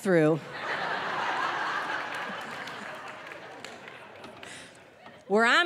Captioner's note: audience laughing